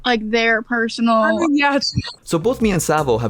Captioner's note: chuckles